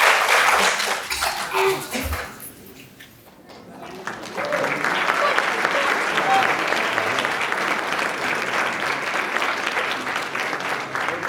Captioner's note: applauds; laughs